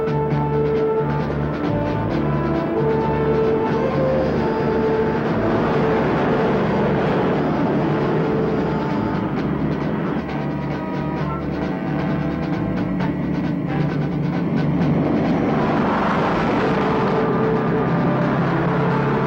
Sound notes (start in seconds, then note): 5.5 truck whizzes; 9.5 suspenseful music; 15.1 truck whizzes